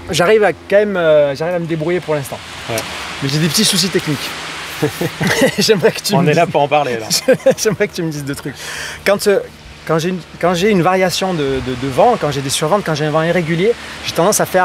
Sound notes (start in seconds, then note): 7.7 laughs